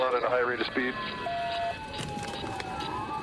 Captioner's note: sirens blaring